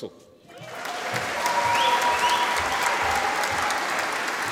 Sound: audience applauding

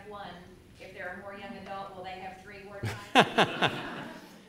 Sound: laughter

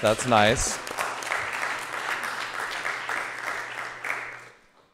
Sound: audience applauding

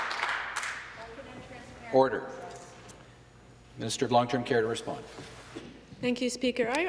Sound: some Applause

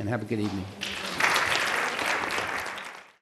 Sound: applause

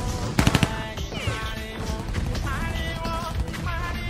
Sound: gun firing

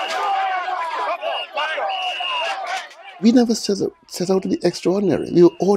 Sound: yelling and whistles blowing

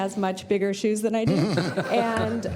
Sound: laughter

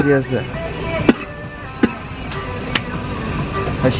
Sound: cough x2

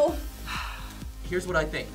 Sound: sighs

